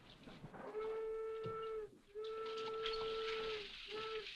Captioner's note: train horn sounding afar